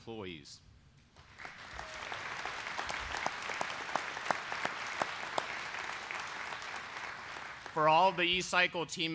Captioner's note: applause